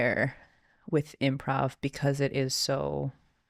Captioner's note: none